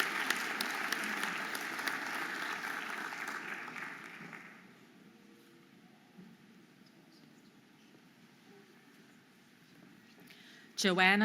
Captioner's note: audience applauding and cheering